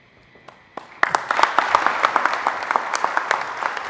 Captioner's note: applause